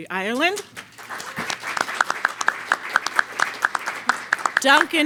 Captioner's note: audience applauds